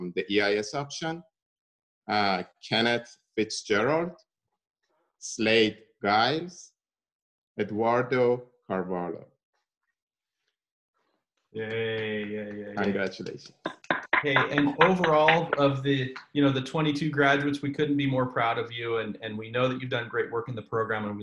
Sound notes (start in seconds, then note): 8.8 applause